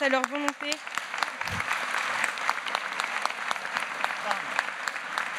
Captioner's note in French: Applaudissements